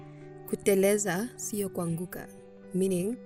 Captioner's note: speaking Swahili